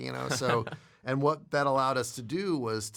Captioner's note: laughs